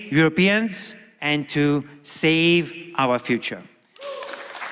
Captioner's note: applause